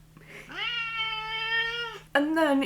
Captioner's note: cat hissing; cat meowing